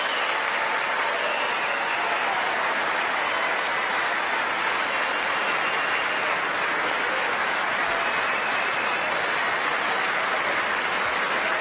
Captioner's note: applause